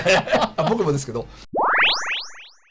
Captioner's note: laughs